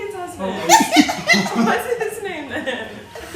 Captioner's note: laughing